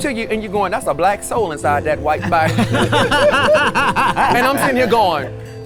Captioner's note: everyone laughs